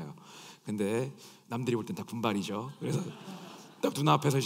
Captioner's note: laughs